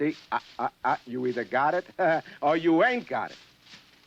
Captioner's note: laughs